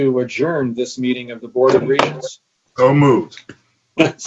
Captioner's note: gavel banging